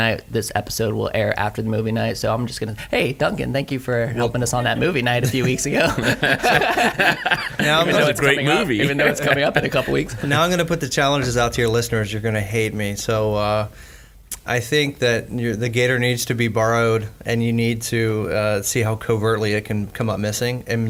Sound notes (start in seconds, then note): 6.6 all laughing